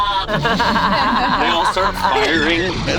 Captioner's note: laughs